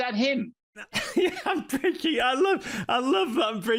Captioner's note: laughing